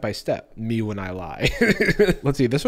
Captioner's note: laughs